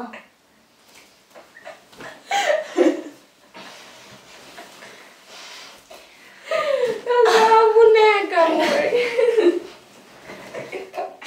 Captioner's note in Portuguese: risos